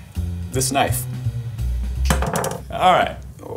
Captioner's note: knife bangs